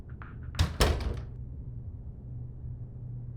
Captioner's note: door opens